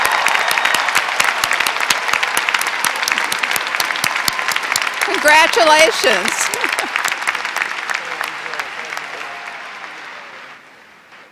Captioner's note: applause